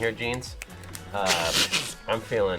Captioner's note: laughs